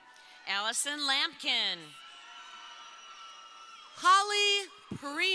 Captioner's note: crowd cheering